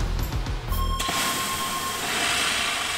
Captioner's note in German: langer Ton